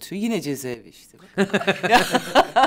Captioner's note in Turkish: Gülüyorlar